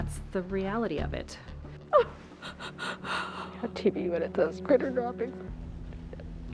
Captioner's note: sobbing